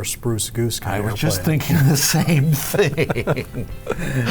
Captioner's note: laughs